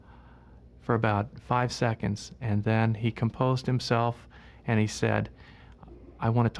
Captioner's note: breath